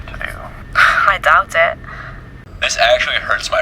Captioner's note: chuckles